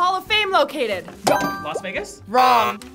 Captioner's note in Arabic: قرع الجرس